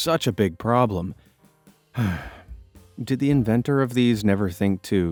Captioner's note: sighs